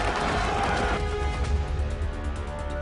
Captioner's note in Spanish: Algarabía en el hipódromo